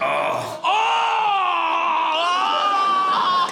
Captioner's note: groans loudly